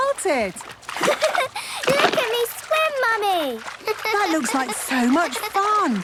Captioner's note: giggles